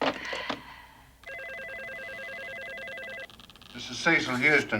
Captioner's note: phone ringing